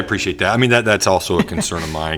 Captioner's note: laughter